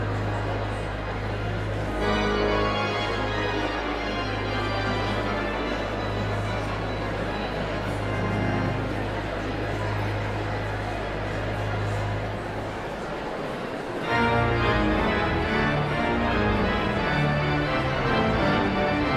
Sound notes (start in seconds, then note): 6.2 audience chatter continues; 6.2 pipe organ music continues